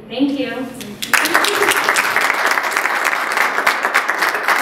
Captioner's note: applause